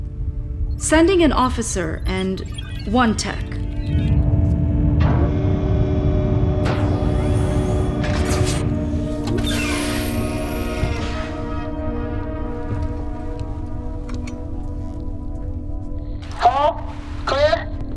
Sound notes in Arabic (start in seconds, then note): 4.0 طنين محطة الفضاء